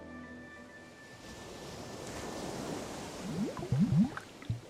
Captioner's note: waves crashing